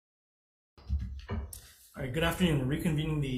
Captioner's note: gavel clunks